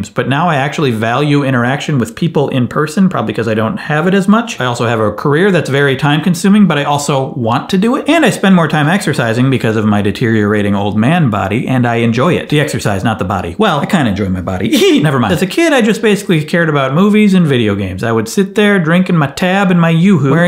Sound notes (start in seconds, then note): 14.6 giggles